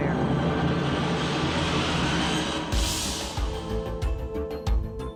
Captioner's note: wind blowing